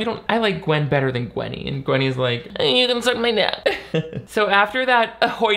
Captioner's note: chuckles